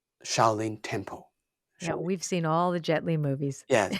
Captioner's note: laughs